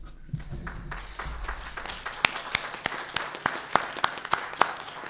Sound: audience clapping

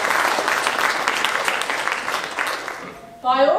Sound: audience clapping

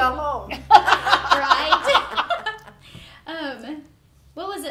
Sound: group laughing

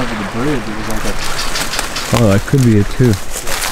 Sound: imitates bridge rattling

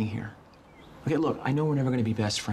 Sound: none

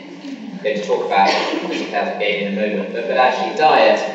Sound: coughing masks speaker

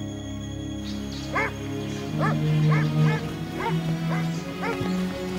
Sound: dogs barking

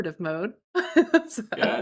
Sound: laughs

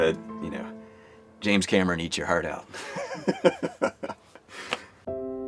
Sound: laughing

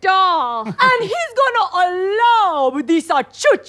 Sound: Italian accent

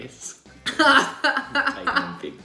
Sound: laughing

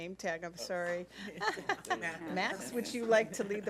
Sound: laughing

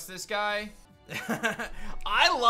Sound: laughs

